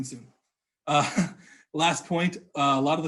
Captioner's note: laughs